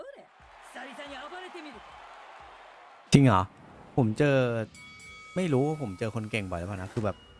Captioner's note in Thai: ปรบมือ